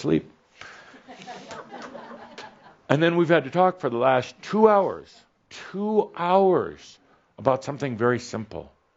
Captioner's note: a few chuckles